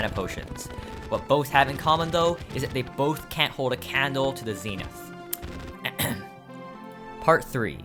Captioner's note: ahem